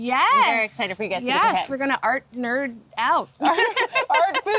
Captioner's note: laughing